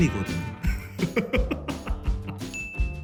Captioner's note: laughter